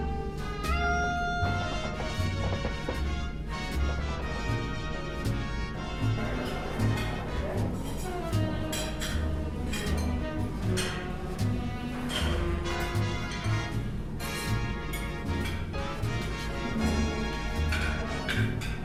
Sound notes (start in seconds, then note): 6.2 passengers chatter, plates clatter, cutlerly scratches and clinks, corks pop